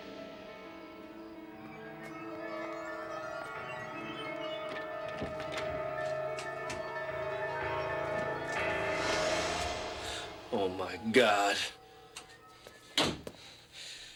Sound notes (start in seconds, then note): 9.6 gasps